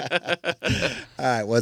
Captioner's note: laughing